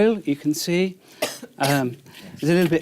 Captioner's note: coughs